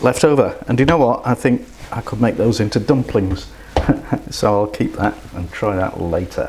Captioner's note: laughs